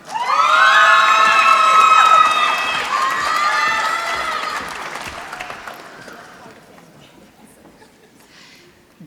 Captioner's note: applause